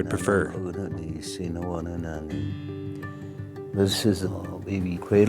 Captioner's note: speaking in foreign language